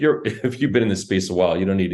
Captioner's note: laughs